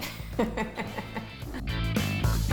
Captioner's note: laughing